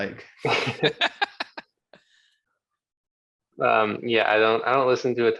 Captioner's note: laughing